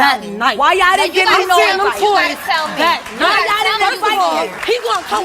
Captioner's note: audience applauds